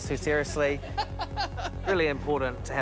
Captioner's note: laughs